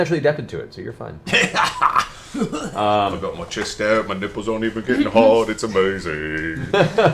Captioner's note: laughs